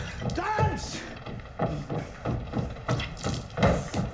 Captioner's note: thudding